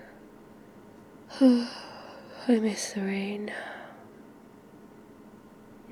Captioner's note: yawns